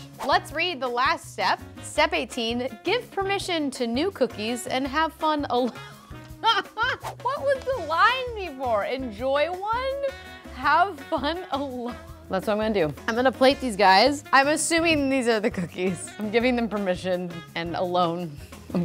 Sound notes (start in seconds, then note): 6.4 laughs